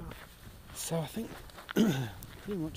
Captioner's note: ahem